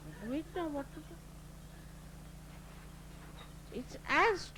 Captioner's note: laughter